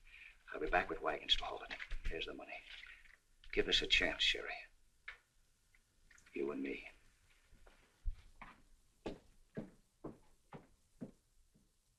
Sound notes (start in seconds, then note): none